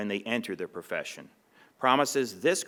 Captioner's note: none